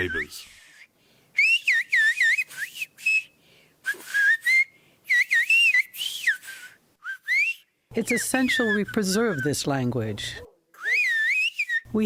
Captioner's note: through translator